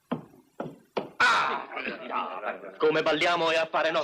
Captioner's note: groaning, muttering